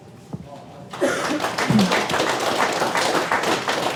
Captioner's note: applause